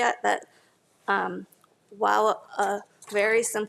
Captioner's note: none